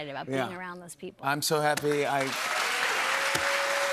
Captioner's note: cheers and applause